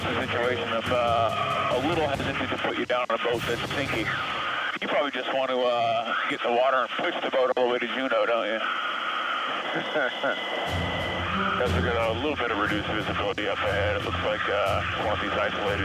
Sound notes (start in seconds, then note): 9.7 laughs; 12.9 dramatic music